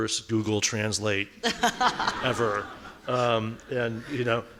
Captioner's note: laughing